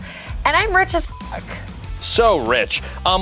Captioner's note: beeps